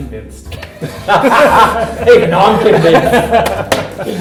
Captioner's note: laughter